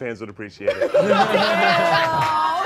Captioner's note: all laughing